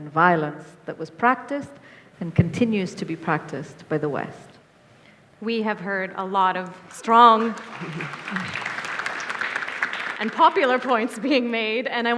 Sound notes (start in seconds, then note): 6.7 audience applauds